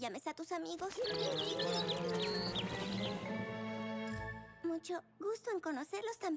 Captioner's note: chirping